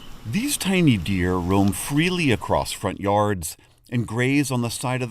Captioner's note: voice-over